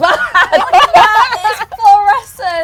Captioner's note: laughs